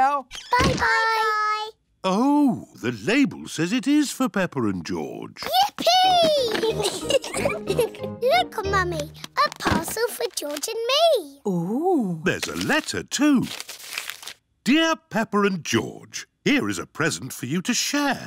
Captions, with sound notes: -Bye-bye. -Bye-bye. Oh. The label says it is for Peppa and George. -Yippee! -(GIGGLES) Look, Mummy, a parcel for George and me. -Ooh! -There's a letter too. "Dear Peppa and George, here is a present for you to share.